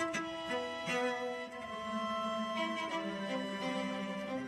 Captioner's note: none